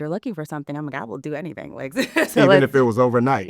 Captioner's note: laughs